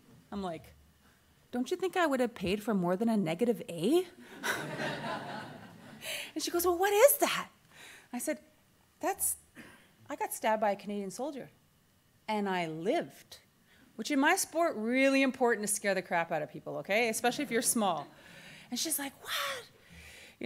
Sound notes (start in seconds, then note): 4.4 audience laughter